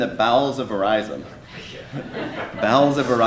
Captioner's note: laughter